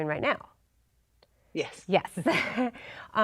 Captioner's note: chuckles